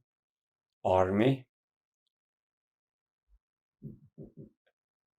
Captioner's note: pauses 6 seconds